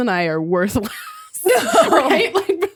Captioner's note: laugh